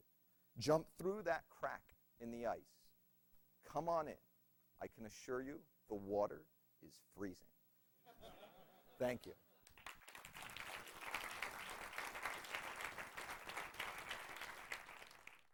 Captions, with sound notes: Jump through that crack in the ice. Come on in, I can assure you the water is freezing! [laughter] Thank you! [audience applauds]